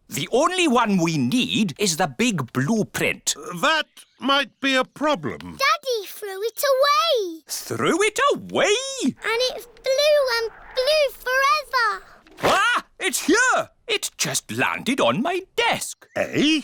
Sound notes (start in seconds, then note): none